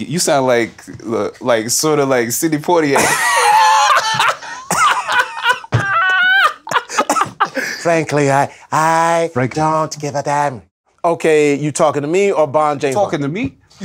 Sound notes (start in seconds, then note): 2.9 laughter